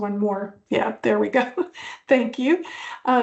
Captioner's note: laughs